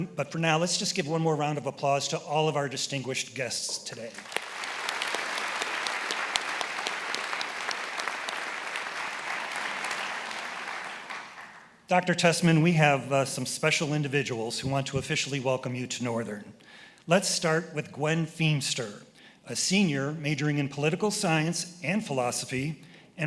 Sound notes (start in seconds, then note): 4.1 attendees applauding; 4.7 applauds